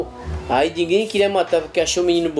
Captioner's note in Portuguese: sons de movimentações na rua